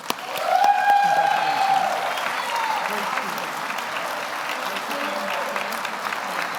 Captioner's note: audience applauds; audience cheers